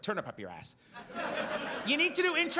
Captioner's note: audience laughs